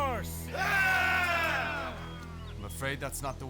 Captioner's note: all cheering